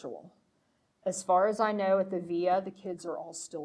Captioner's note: speaking foreign language